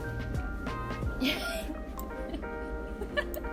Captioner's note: laughing